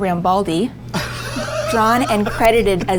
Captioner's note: Adam laughing